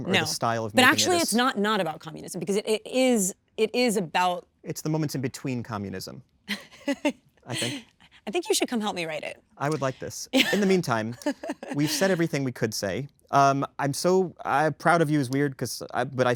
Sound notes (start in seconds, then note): 6.5 Kristen laughs; 10.4 laughing